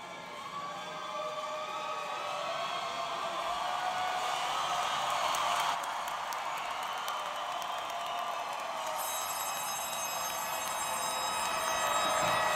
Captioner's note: applause